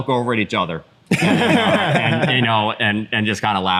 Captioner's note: laughter